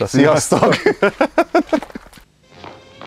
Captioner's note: chuckles